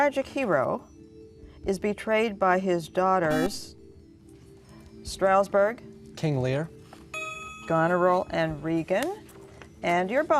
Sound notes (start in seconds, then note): 3.2 beeping